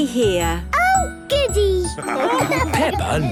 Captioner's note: laughing